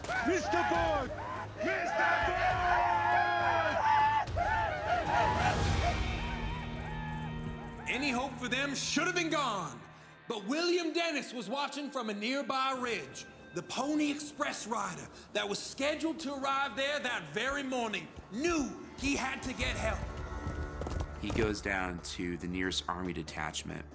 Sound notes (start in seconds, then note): 1.4 speaks paiute language; 3.8 paiute whooping